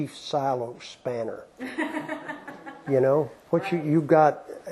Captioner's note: laughter